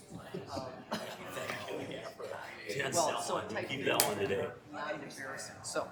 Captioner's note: chattering